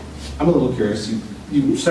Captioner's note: none